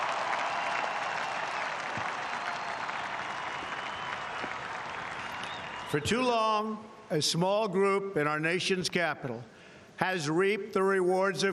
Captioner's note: applause